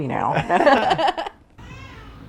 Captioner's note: laughing; baby cries